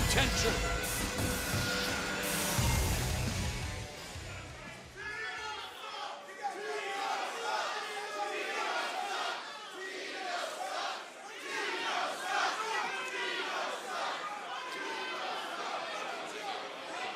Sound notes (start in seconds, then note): 2.1 crowd chatter; 7.0 crowd cheering